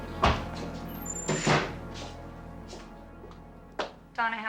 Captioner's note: door slamming